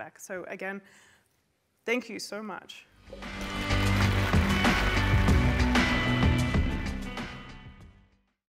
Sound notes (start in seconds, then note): 3.1 applause; 3.1 mellow indie music